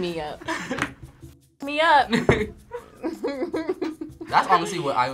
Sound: both laugh

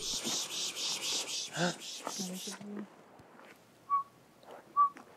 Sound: swooshing mouth noises; repeating whistle notes

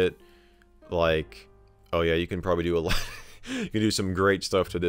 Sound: laughs

